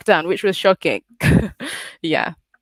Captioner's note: chuckles